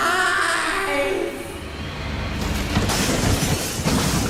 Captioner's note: wind howls